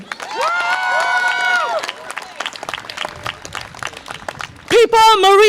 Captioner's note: audience applause and cheer